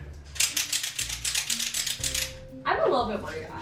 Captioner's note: tether cranks